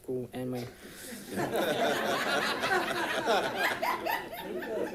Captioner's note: audience laughing